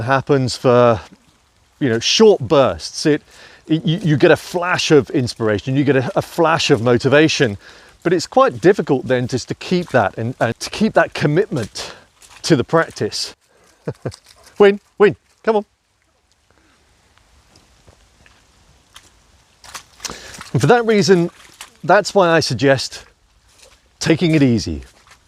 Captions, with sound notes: happens for short bursts, you get a flash of inspiration, you get a flash of motivation. But it's quite difficult then just to keep that, to keep that commitment to the practice. (laughs) Wynn, wynn, come on. And for that reason, that's why I suggest taking it easy.